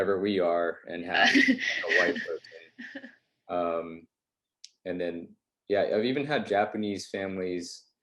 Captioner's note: laughs